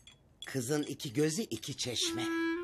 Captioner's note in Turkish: none